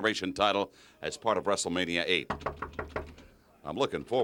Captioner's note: knocks